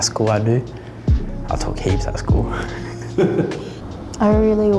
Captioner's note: chuckles